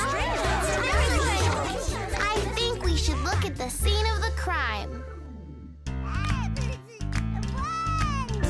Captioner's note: gasping, chattering